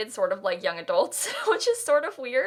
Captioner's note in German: kichern